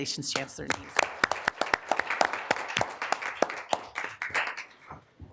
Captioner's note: applause